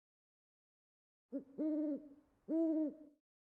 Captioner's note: Owlie hoots